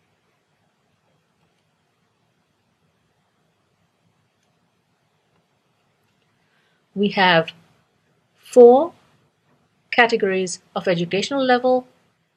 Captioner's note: pause